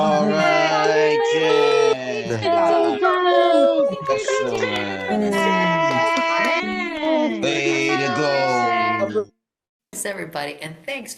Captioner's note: cheering